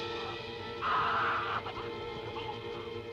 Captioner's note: screaming